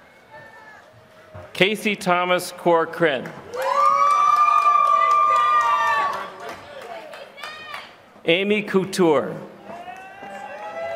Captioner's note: applause